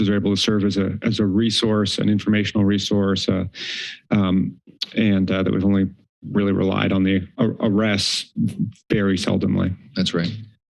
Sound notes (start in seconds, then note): 4.4 clicks tongue